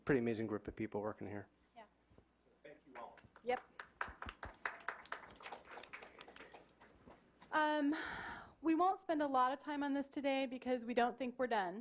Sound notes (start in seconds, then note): 3.0 claps